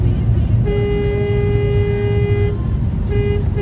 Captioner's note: dashcam driver honks